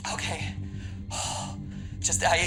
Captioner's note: exhales